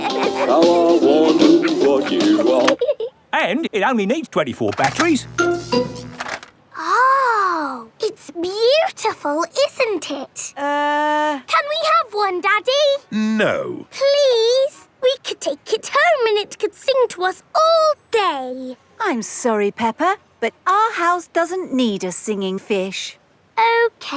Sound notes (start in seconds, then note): 0.0 both giggling; 4.8 buzzing